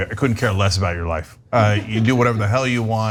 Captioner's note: laugh